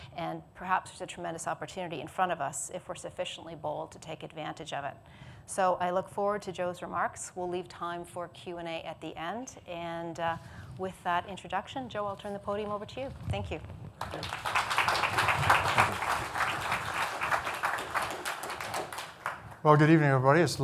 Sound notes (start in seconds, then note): 14.0 audience clapping